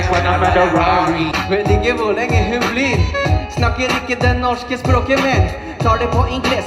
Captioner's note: In Norwegian